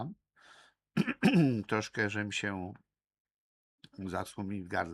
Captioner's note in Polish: kaszel